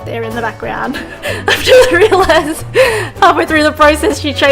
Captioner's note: laughs